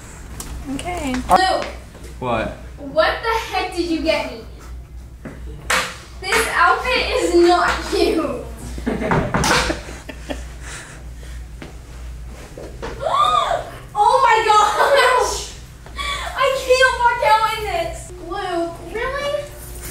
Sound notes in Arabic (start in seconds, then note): 13.1 شهيق